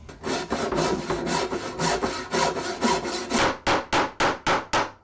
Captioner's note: slow sawing; hammering